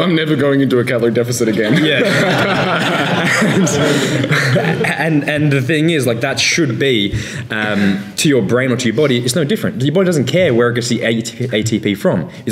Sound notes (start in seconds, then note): 1.6 laughing